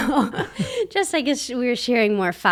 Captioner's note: laughs